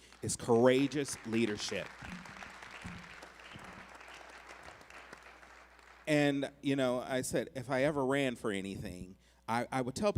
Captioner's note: applause